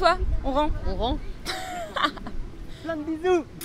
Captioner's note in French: rire